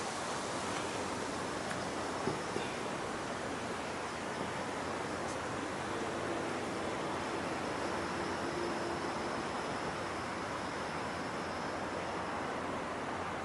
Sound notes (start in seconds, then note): 7.5 traffic humming